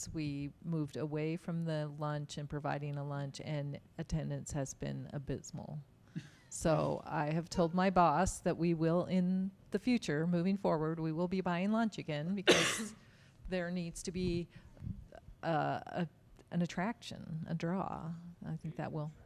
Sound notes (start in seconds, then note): 6.1 chuckling